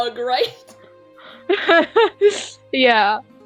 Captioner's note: laughs